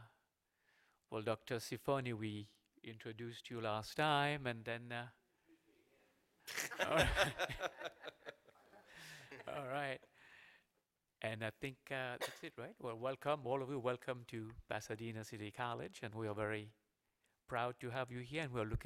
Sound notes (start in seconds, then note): 6.5 laughter